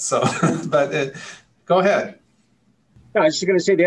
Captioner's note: laughs